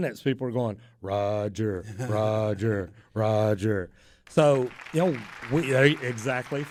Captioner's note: applause